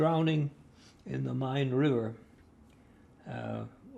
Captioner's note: german